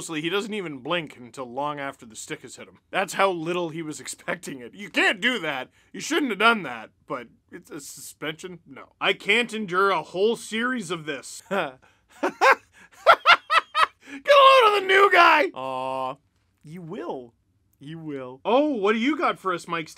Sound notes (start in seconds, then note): 12.2 pure laughter